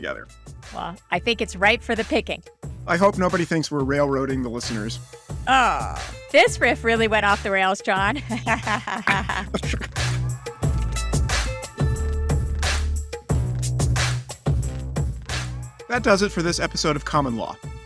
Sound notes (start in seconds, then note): 8.0 laughing